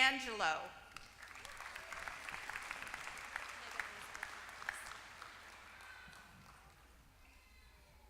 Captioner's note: applause